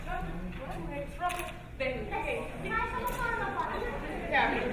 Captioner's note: speaking in foreign language